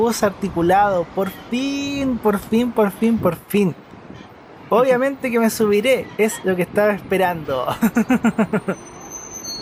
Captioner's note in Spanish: risas